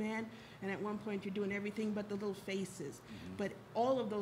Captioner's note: none